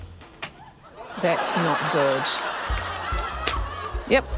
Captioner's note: laughter